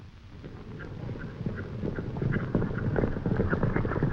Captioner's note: hooves clopping